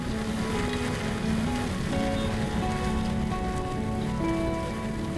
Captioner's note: tractor whirring; gentle music